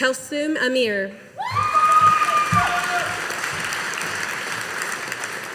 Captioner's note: audience applauding